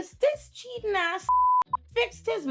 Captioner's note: beep